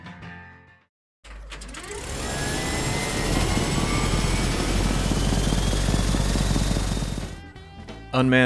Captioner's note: sound of airplane starting